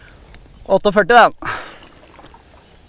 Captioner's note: shouting